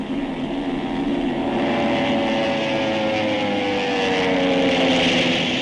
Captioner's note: The sound of Bomber aircraft